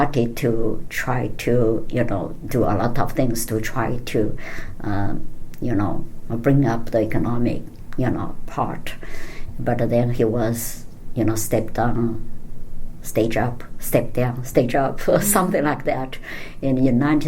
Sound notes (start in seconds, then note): 15.1 laughing